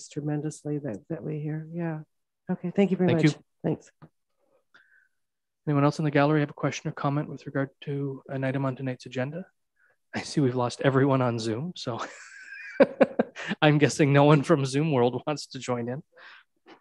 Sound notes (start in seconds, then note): 12.0 laughing